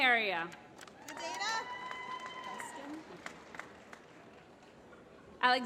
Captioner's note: applause